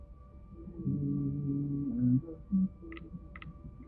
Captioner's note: humming